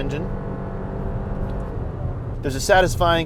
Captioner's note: engine hums